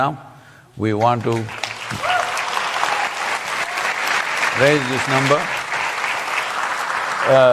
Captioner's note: applause